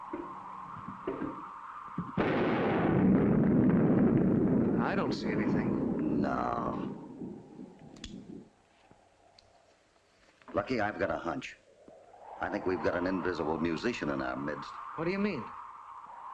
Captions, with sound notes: [ LOUD THUNDERCLAP ] I don't see anything. No. Lucky, I've got a hunch. I think we've got an invisible musician in our midst. What do you mean?